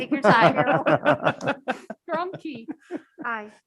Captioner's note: members laugh